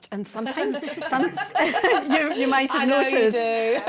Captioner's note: laughter